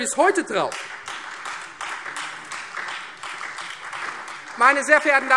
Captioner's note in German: Beifall Freie Demokraten, vereinzelt SPD und DIE LINKE